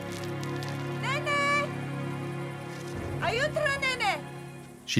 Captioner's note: foreign spoken audio